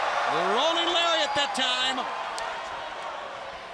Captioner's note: crowd cheering